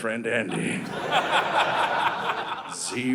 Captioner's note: audience laughing